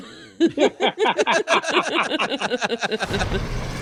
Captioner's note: all laughing